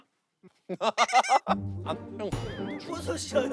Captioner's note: bursts into laughter